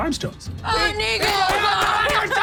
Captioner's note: gun shots